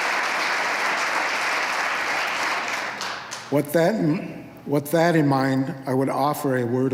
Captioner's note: applause